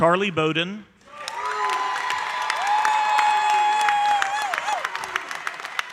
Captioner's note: audience cheering and applauding